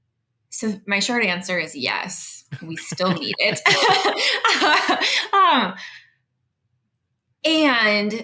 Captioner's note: laughs